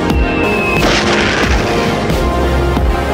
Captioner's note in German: Explosionsgeräusch